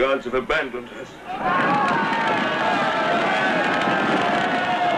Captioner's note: yelling